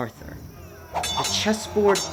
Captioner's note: sword clash